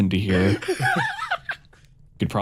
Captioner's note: laughs